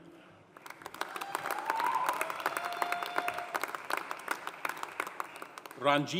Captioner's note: audience applauding; audience cheering